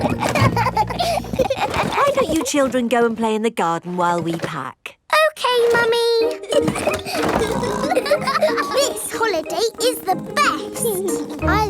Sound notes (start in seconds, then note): 0.0 children laughing; 6.3 laughing and snorting